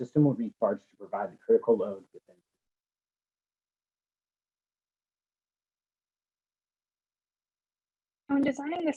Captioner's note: audio cuts out